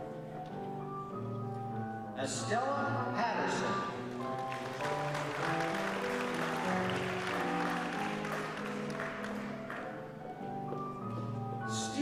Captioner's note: applause